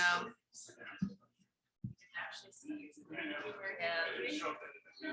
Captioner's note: people chattering indistinctly